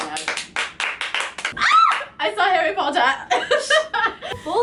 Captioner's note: clapping; excited squeal